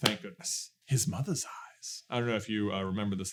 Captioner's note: accented